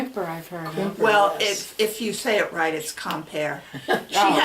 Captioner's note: laughs